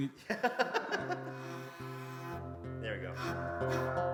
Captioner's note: laughs